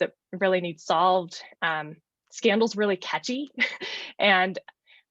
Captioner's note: laughs